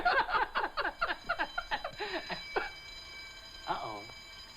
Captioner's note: alarm ringing